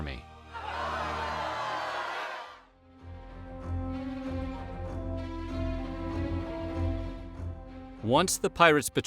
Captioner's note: cheering